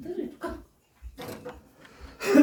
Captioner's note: door opens